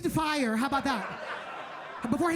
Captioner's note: audience laughing